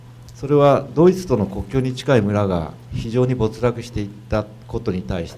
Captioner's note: speaking foreign language